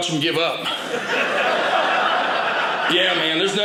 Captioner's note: audience laughing